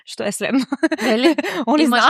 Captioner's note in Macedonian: смеа